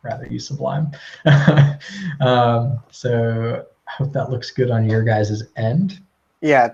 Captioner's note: laugh